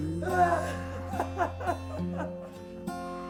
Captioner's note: Sue sobs